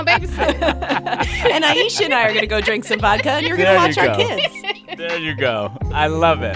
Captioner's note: laughter